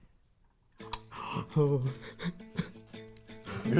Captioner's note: exclaiming; tooth clicking; chuckling; upbeat instrumental music